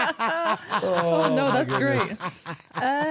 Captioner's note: laughing